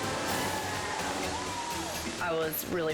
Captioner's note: crowd cheers